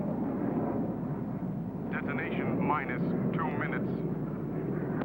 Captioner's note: man On Radio